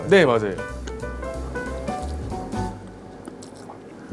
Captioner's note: slurp